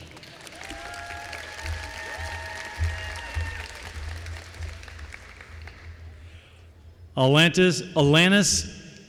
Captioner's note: applause